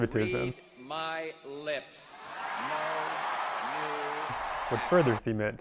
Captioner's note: people cheering